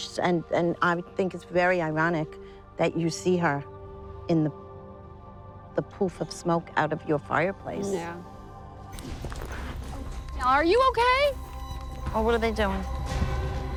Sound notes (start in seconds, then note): 9.1 horses rustling